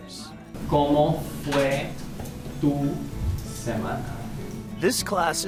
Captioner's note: speaking foreign language